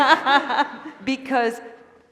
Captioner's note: laughter